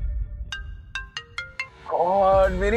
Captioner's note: phone ringing